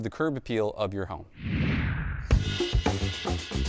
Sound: whooshing; upbeat music

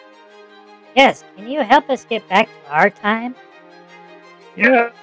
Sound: excitedly

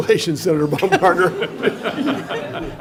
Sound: laughter

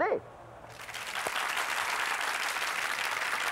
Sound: applause

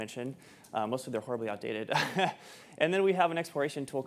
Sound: chuckles

